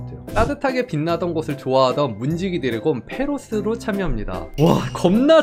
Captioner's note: voiceover